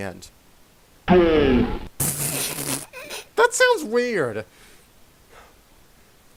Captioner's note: laughs weird